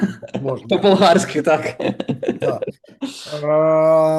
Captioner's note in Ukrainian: сміється